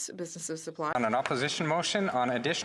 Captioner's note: speaking French